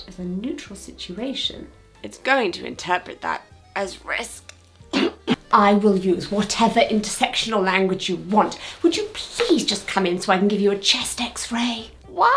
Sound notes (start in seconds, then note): 4.9 coughs